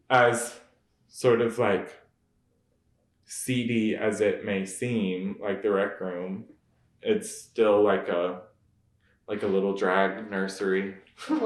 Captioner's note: laughs